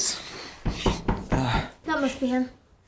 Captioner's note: knocking at door